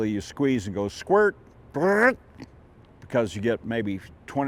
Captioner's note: makes rumble noise